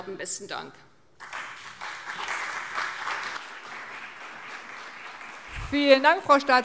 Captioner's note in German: Beifall CDU und BÜNDNIS 90/DIE GRÜNEN